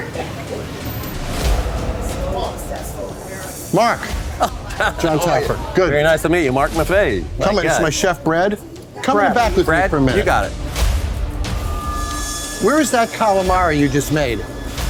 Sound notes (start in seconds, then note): 0.0 laughing; 2.4 faint shouting; 11.3 dramatic music